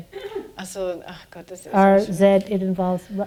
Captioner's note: speaking german